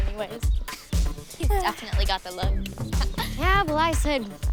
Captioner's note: chuckles